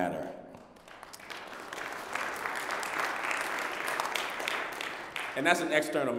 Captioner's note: applause